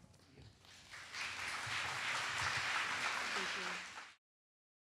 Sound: applause

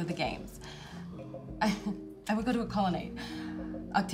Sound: laughs

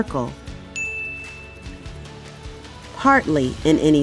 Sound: bell Rings

